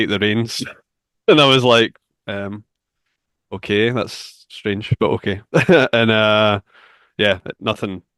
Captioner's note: chuckles; laughs